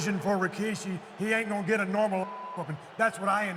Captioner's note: beep